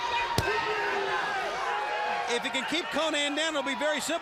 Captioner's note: crowd chatter